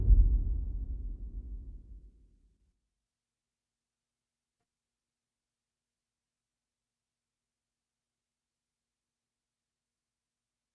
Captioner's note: dramatic sound